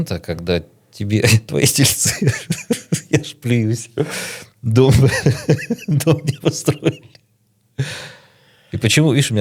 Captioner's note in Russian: смех